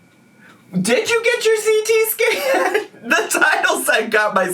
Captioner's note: laughing